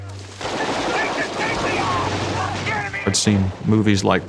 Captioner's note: guns banging